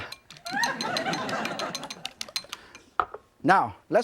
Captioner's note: audience laughing